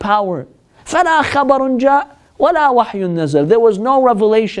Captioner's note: Arabic